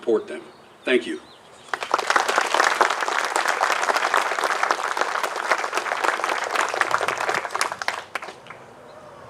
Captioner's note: applause